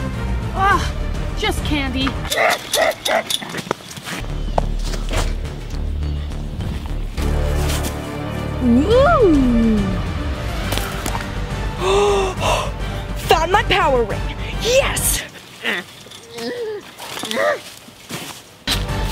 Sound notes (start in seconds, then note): 2.4 monster grunts; 4.4 dramatic music continues; 11.7 sighs; 15.7 monster grunts